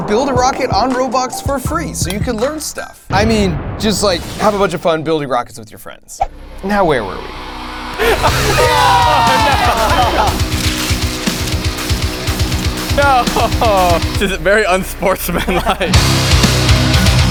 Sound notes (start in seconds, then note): 8.0 friends cheering; 8.6 heavy metal rock music